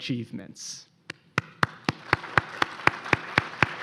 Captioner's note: applause